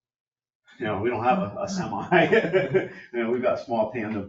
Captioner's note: laughs